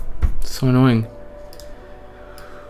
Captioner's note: clicking mouse